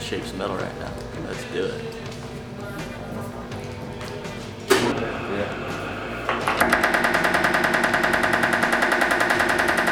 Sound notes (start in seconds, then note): 6.4 hammering metal